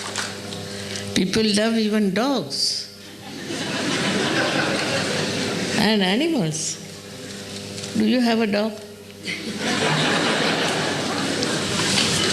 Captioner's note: laughter